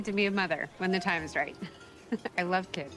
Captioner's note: chuckling